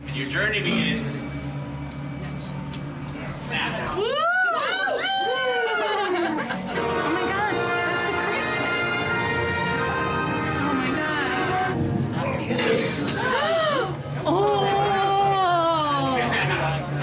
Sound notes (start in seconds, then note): 4.0 guests cheering; 13.1 gasps